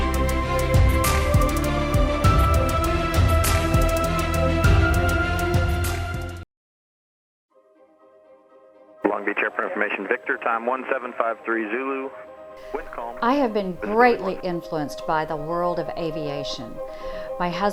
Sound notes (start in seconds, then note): 9.3 radio transmission